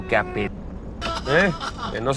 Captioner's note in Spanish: Risas